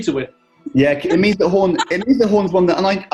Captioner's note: laughing